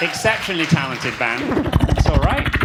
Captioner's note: audience clapping